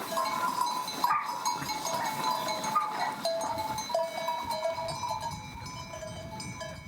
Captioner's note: bell continue clanking; dog barking